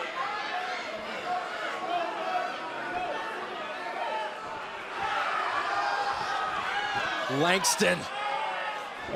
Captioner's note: crowd cheering